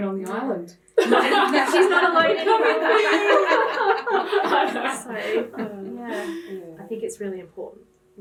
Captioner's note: laughing